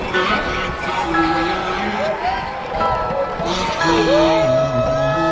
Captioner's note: encouraging upbeat music; crowd cheering